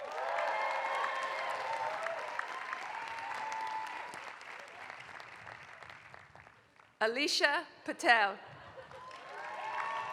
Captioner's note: applause; applause